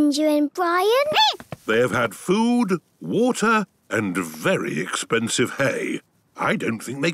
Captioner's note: squeaking